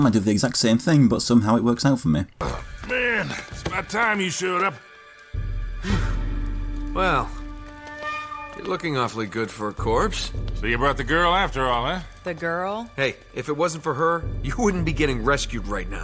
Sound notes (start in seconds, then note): 6.2 in-game audio